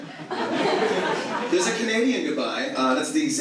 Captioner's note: audience laughs